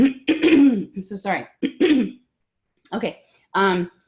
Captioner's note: clearing throat